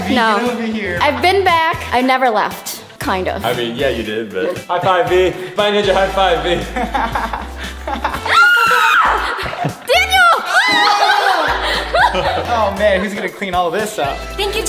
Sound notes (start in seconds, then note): 6.6 laughs; 8.2 screams; 10.6 laughing